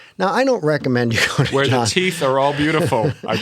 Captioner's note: laughter